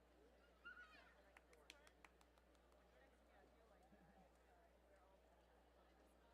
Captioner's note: light clapping and chatting